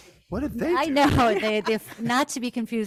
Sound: laughs

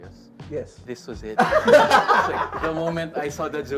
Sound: laughs

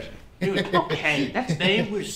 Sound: Manuelo chuckles

